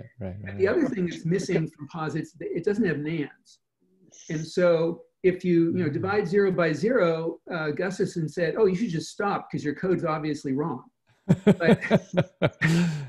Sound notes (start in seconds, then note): 11.3 laughs